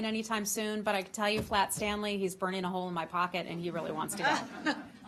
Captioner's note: laughter